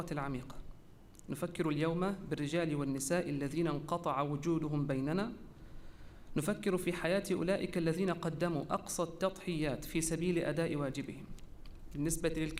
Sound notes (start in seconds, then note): 1.4 repeated in Arabic